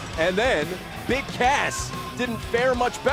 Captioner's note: bell ringing